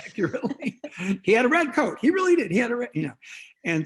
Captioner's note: both laughing